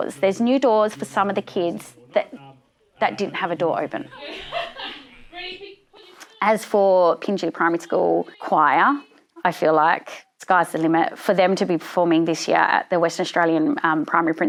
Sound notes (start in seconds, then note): 4.0 laughter